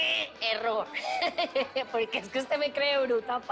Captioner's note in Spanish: Risas